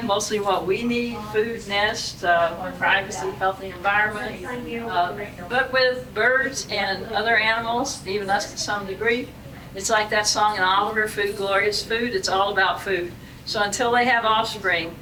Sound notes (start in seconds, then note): none